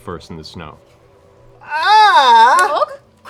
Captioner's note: yells